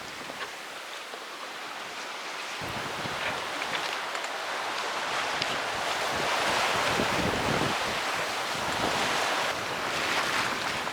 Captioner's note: wave Noise